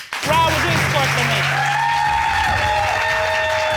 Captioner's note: audience applauding